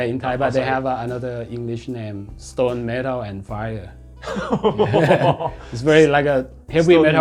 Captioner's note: laughing